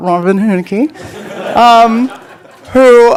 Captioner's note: audience laughing